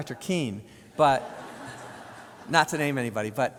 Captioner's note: audience laughs